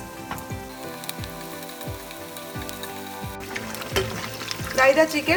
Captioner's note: chicken sizzling